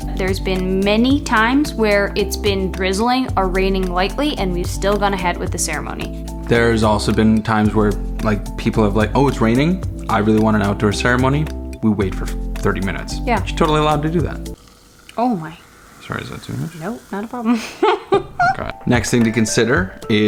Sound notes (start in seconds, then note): 14.6 wine gurgling; 17.3 laughing